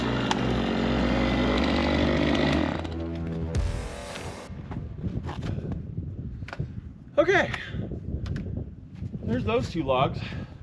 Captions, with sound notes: (dramatic music ends) (wind rustling) Okay, there's those two logs.